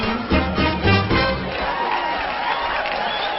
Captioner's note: crowd cheering